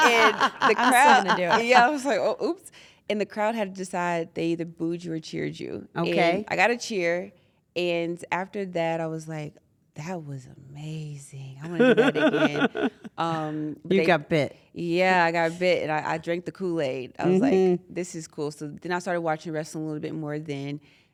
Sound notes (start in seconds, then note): 11.7 laugh